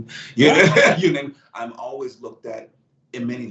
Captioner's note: laughs